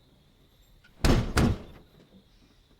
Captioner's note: thuds